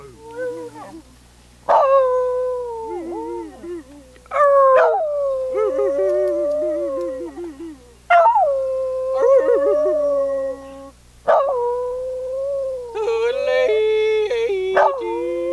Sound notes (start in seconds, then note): 0.2 howls; 4.3 howling; 8.0 howling continues; 14.7 howling continues